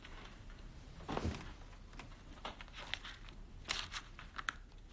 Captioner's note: book rustling